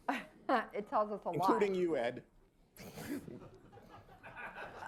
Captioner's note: laughter